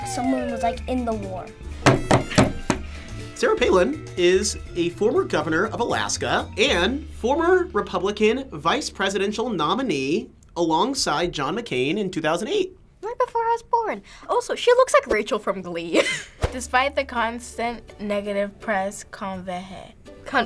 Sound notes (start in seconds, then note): 1.8 taps table; 16.2 laughs